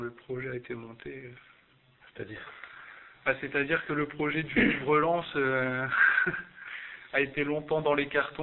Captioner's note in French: rire